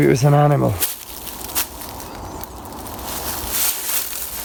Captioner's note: leaves rustling